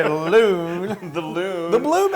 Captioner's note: laugh